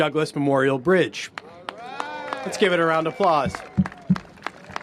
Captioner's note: cheers and applause